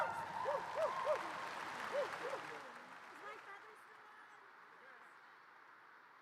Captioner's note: audience applause; talking off microphone